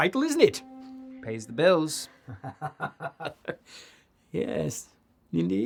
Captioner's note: Archibald laughs